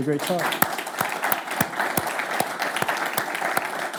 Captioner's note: clapping